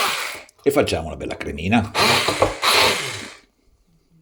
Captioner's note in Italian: sbuffare